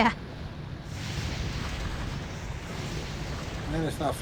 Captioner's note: waves crashing